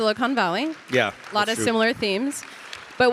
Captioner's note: audience applauding